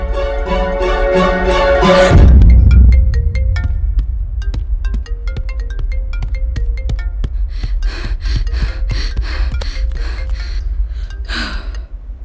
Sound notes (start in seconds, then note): 2.0 phone ringing; 10.6 gasping